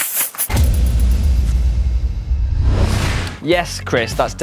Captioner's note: logo whooshing; upbeat music